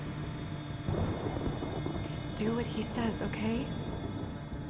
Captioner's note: thunder rumbling